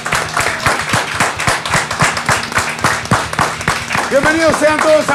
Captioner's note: applause